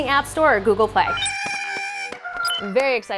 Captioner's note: Porg sounds